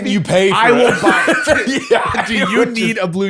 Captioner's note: laughter